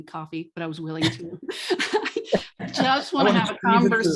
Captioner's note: laughs